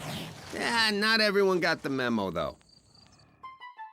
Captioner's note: badger hisses